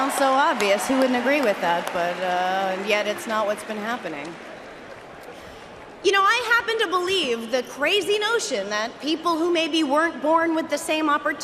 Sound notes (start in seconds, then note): 0.0 cheering and applause